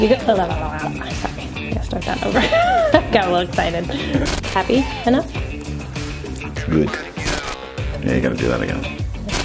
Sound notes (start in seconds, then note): 2.8 laughing